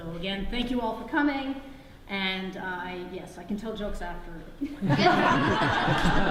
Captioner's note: audience laughs